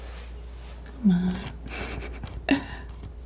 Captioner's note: laughing